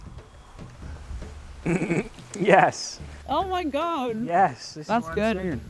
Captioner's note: laughs